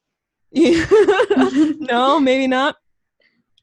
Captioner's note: laughs